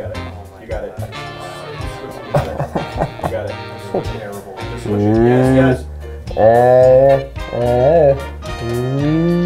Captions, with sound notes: you got it, you got it. (laughing) You got it. Yes, yes! (humming)